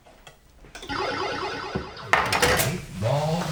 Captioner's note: pinball noises